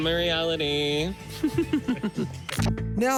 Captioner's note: chuckles